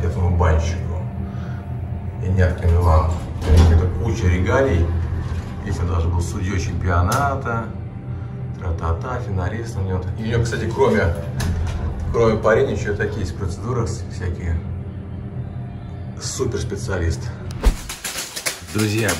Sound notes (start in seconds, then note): 17.6 sounds of blows with a bath broom